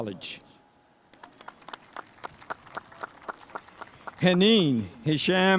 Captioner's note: spectators applauding